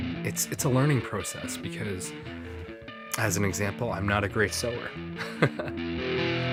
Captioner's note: chuckles